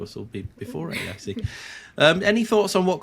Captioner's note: chuckles